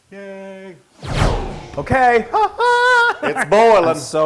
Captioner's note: laugh